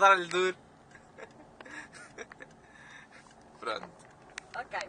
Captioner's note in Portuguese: Risos